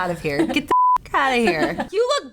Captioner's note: beep